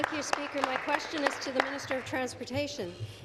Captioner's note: applause